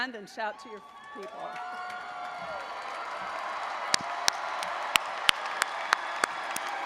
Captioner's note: audience cheering; audience applauding